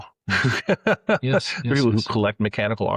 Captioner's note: laughing